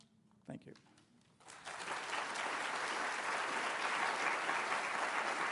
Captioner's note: applause